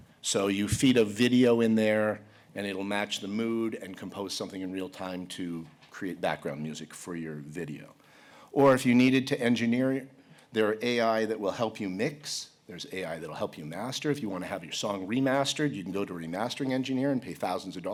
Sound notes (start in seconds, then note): none